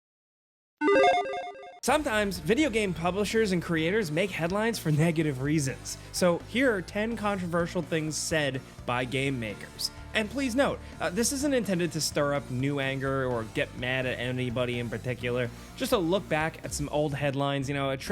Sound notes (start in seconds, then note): 0.8 logo chiming